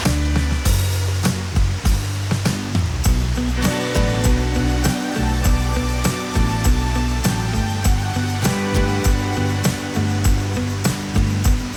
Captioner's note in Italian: Applauso